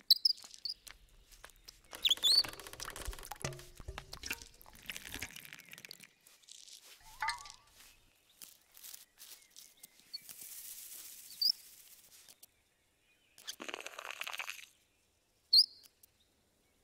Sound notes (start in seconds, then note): 0.0 bird chirping; 4.8 water trickling; 13.5 butterfly slurping